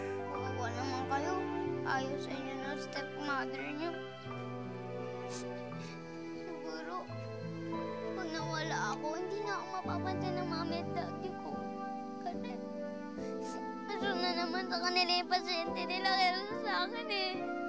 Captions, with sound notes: You poor kids. You're stepmother doesn’t like you. [sniffles] Maybe when I'm gone, my mom and dad won't take notice anymore. Because... their patients are more important to them than I am.